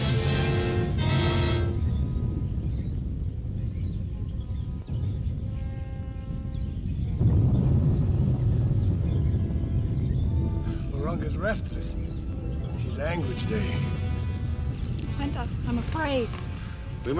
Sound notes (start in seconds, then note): 2.8 volcano rumbling